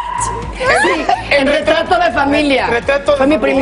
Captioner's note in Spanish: risas